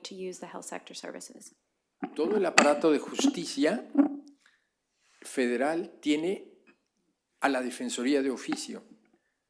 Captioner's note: spanish